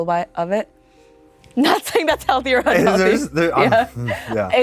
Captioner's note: laughs